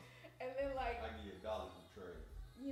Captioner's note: none